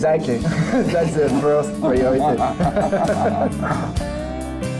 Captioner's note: all laugh